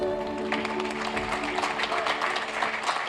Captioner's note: applauding